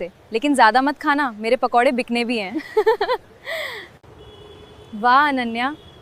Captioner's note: laughter; sudden sharp gasp